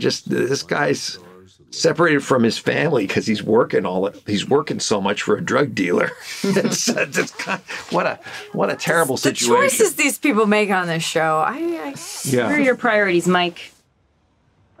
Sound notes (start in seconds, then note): 5.9 laughs; 5.9 chuckles